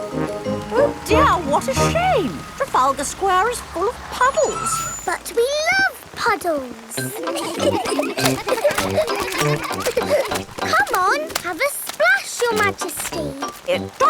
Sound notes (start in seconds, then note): 4.7 tires screeching; 6.9 kids giggling